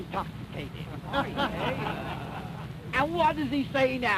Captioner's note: laughter